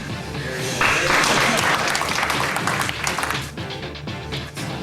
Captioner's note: audience applauding; soft rock music